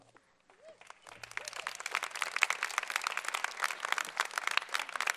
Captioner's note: applause